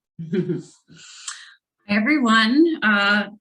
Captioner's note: chuckles